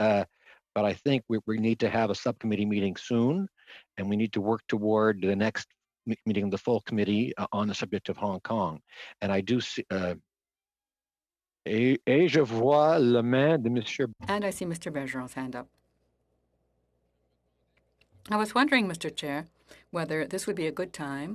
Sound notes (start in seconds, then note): 16.4 speaking French